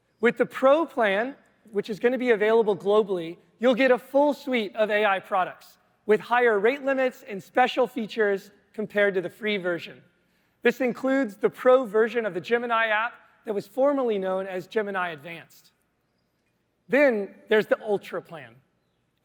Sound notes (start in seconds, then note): none